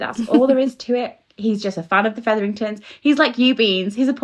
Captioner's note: laugh